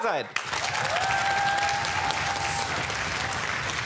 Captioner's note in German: Jubel und Applaus